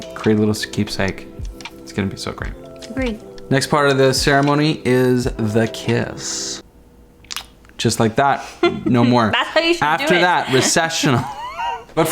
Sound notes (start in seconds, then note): 7.2 smooching; 8.6 laughing; 11.6 laughs